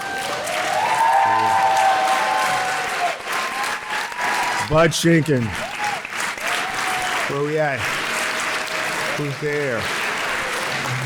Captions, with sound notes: (audience applauds and cheers) Bud Jenkin. Where you at? Who's there?